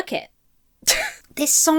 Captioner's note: huffs